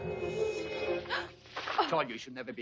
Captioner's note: Mary gasps